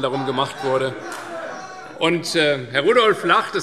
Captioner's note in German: Lachen SPD